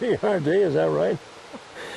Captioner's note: laughs